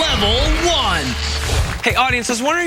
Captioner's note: cheering